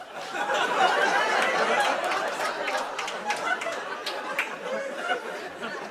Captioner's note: laughter